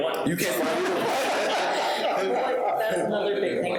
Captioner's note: people laughing